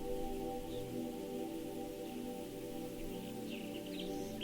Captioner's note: few birds chirping